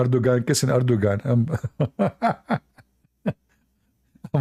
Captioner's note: Ketawa